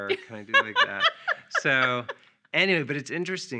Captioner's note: laughing